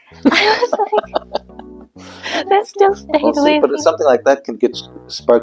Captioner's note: laughter